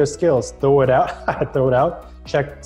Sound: laughing

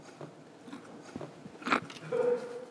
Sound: snort

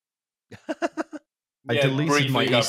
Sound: laughs

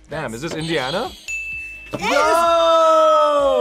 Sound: bell rings

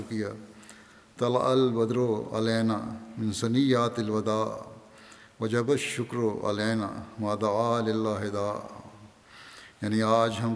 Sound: Arabic

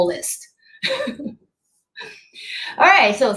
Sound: chuckles

